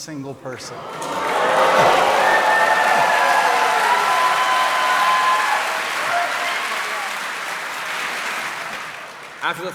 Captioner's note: cheering